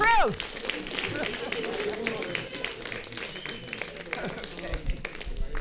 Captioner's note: audience laughing and applauding